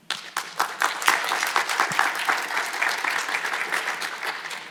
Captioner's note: audience applauds